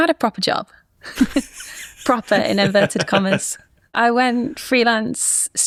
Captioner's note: both laughing